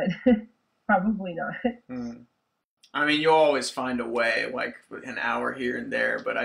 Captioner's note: laughs